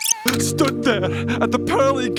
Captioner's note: sobs